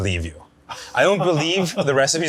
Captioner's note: laughing